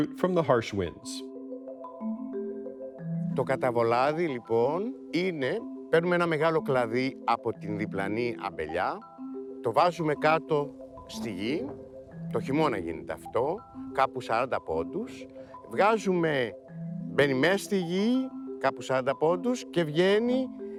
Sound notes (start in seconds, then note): 2.0 light music; 3.2 speaking Greek